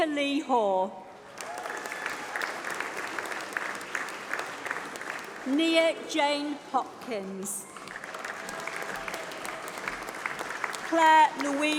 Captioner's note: applause